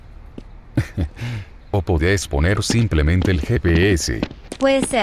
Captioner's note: giggle